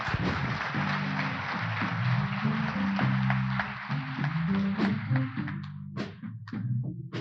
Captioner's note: applause